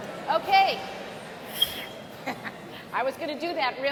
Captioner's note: whistles; laughs